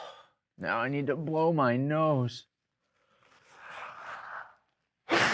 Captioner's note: nose blowing noise